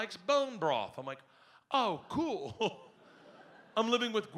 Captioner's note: laughs